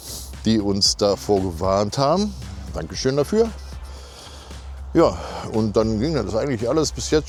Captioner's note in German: schnauben